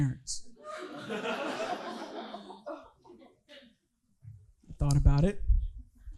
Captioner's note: audience laughing